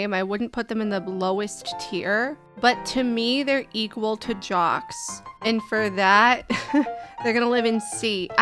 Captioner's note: laughing